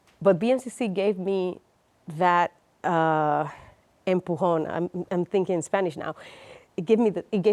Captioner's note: speaks Spanish